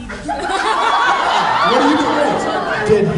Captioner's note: laughs